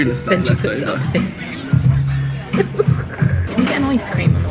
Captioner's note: giggles